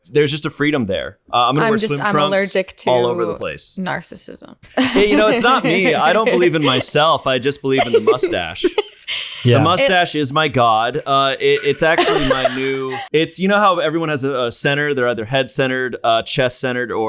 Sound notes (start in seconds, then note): 4.7 laughs